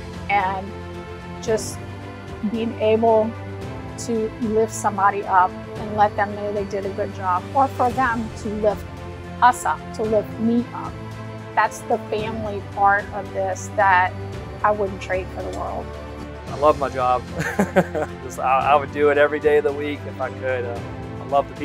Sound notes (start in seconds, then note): 17.3 laughs